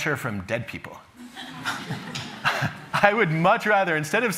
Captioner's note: chuckling